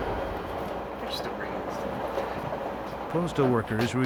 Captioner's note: whispering